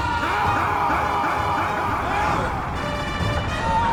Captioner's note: Hutton screams; Butters screams; dark intense music